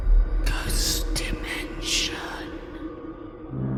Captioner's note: whispering